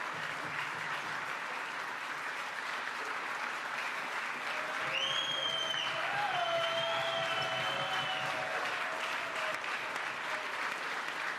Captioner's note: applause